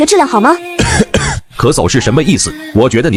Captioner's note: cough cough